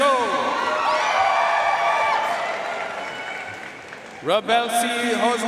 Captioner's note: audience cheering and applauding